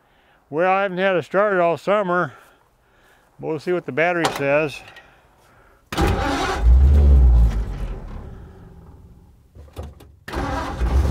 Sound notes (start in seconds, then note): 5.9 engine turns over